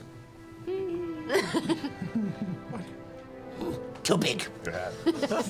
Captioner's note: hums